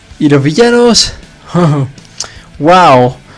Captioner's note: chuckle